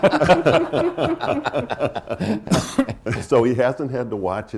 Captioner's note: laughter